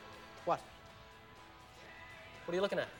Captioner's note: none